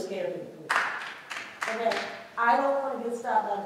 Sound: clapping

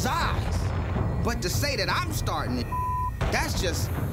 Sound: beep

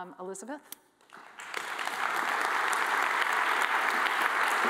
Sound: audience applauding

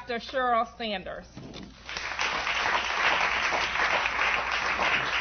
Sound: applause

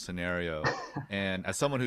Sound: laughs

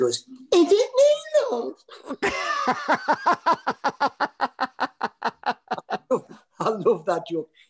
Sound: laughter

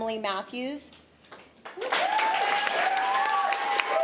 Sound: applause

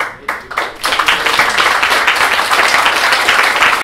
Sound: applause

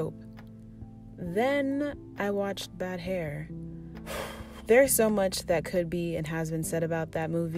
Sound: tired sigh

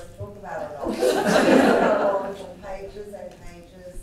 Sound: all laughing

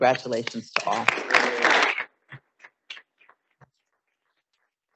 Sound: audience applauding

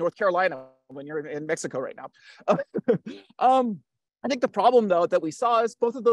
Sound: chuckles

